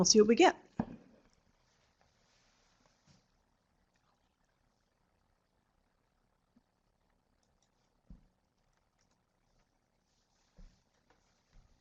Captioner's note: no sound - waiting for questions in chat box